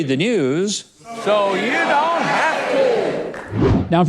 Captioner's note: audience shouting; image swooshes